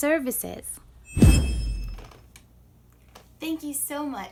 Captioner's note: whooshing